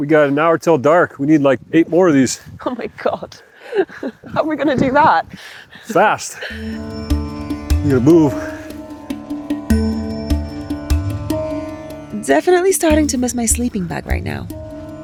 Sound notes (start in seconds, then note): 3.6 laughs; 6.4 laughs; 6.7 energetic music; 8.8 energetic music